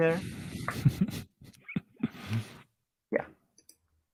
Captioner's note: chuckles